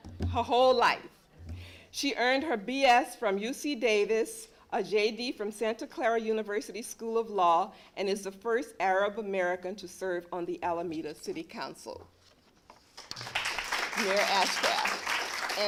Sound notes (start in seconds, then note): 12.9 applause